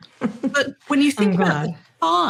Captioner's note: laugh